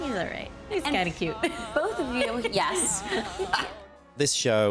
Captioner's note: laughter